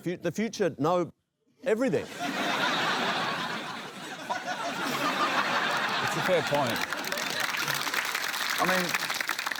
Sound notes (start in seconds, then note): 2.0 laughter; 5.4 applause